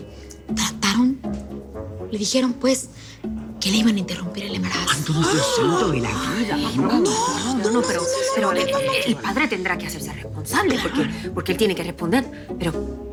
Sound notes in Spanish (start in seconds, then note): 4.7 Exclamaciones